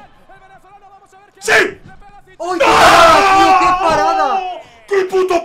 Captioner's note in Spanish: grita